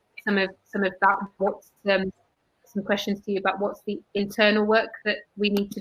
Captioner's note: erm